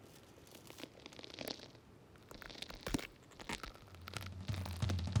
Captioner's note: joints crackling